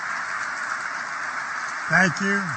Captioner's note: applause